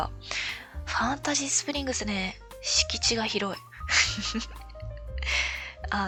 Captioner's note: laughs